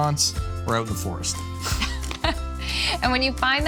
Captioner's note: both laughing